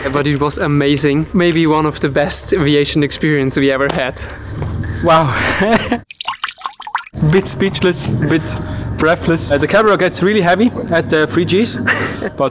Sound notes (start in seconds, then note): 6.0 sweat plunking